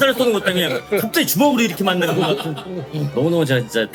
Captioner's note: giggling